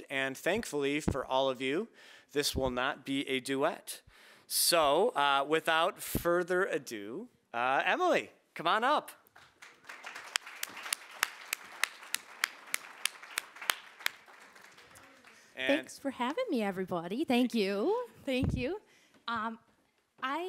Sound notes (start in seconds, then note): 9.3 audience applauding